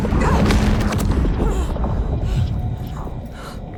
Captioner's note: whispering